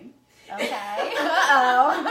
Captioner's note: laughing